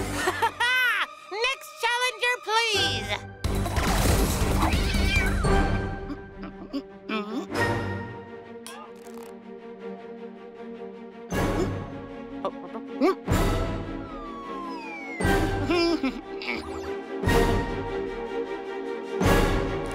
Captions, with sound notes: - (laughs) Next challenger, please. (energetic music) (Cozmo humming) (intense music) (Cozmo chuckles)